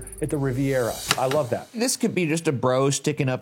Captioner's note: slide projector clicks